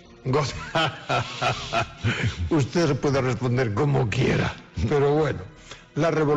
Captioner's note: laughs